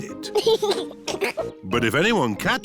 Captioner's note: chuckles